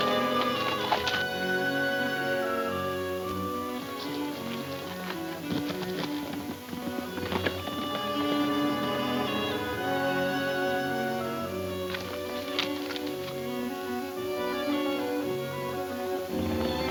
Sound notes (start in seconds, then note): 0.0 suspenseful music; 5.3 horses galloping